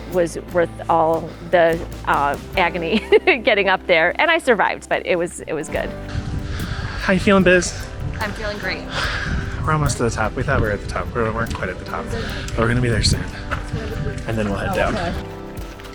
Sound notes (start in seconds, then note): 2.8 laughs; 8.2 sighs